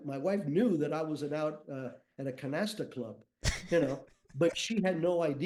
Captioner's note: chuckles